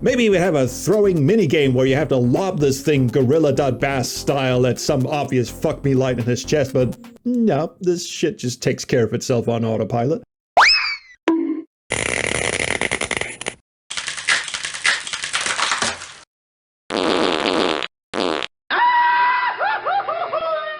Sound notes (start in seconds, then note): 10.6 cartoon whistle; 11.0 bonk; 11.8 electrical crackling; 14.0 crackling; 16.9 fart noises; 18.7 goofy scream